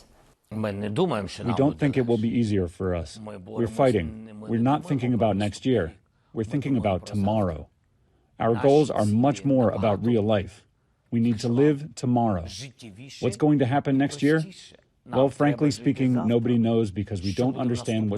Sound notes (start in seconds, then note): 2.0 through translator